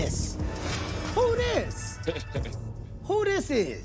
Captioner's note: chuckles